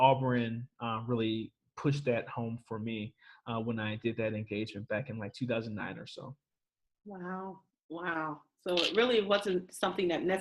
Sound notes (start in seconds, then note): none